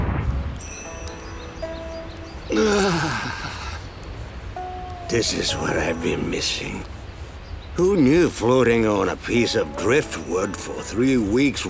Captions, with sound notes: [sighing] This is what I've been missing. Who knew floating on a piece of driftwood for three weeks